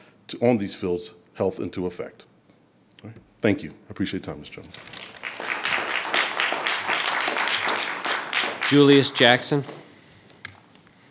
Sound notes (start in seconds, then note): 4.8 attendees applauding